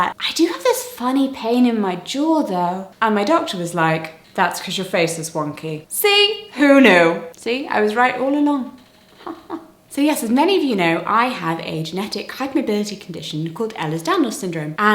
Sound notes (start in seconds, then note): 9.2 chuckles